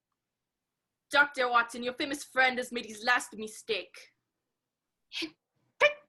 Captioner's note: French accent